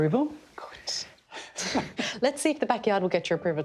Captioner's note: whispers; chuckles